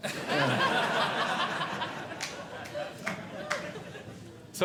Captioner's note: audience Laughing